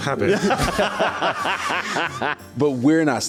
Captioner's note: laughing